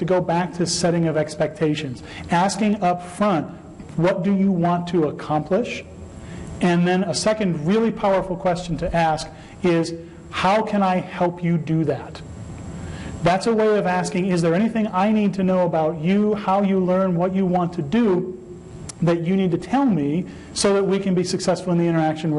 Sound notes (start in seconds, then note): none